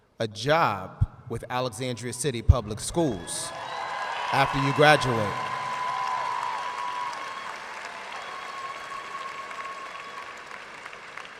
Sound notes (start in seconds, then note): 5.9 audience cheers and applauds